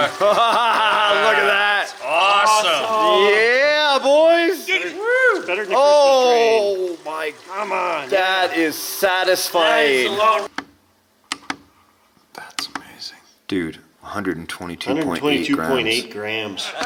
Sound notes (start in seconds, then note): 0.3 laughing; 11.2 button clicking